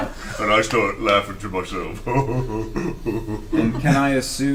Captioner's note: all laugh; silly laughter